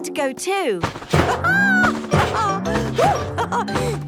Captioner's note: laughs